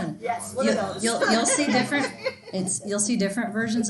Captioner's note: students laughing